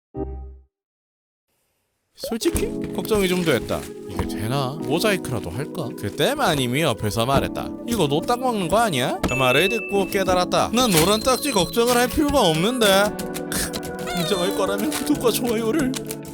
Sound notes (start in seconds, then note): 13.5 crying